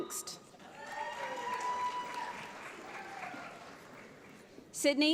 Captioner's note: audience applauds